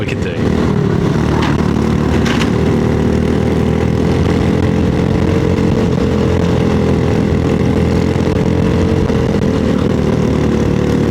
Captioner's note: engine noise